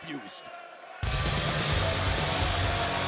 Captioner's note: crowd cheering